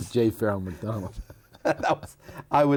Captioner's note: both laughing